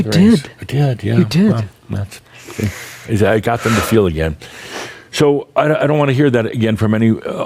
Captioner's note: exhales audibly